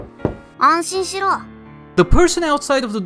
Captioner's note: kno-Kno-Knock